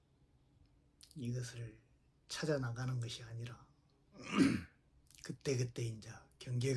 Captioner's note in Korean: 목을 가다듬음